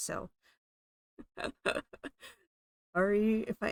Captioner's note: laughing